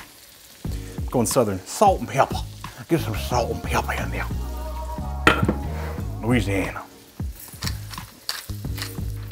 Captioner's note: southern accent